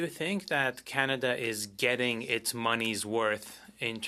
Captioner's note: speaking French